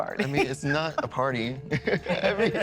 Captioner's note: laughs